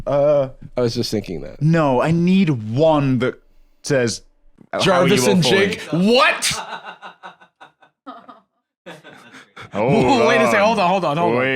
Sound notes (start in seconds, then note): 4.8 laughs; 8.1 laughing